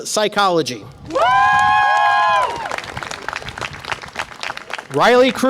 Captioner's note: audience applause and cheer